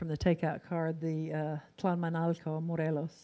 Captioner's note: in foreign language